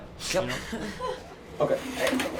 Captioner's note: laughs